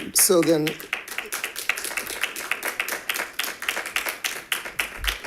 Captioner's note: members clapping